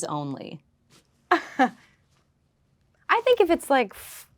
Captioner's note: Lola laughing